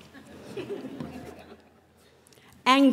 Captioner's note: laughter